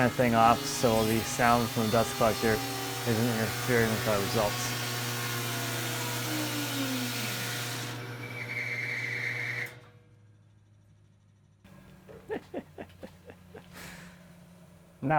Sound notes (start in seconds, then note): 5.1 machine whirring; 12.0 chuckling